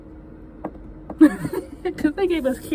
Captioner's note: laughing